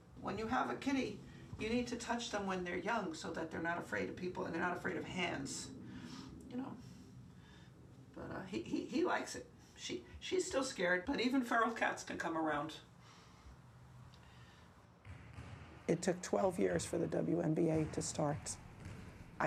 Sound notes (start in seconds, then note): 15.0 basketballs bouncing